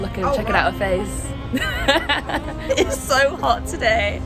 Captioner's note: laughing